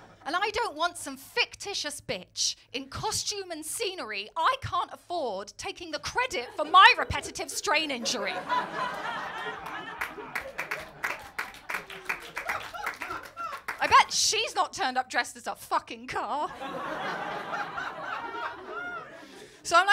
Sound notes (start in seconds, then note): 8.6 laughter & applause; 16.4 laughter